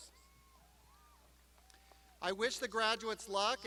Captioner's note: crowd applauding